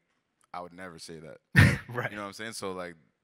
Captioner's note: chuckles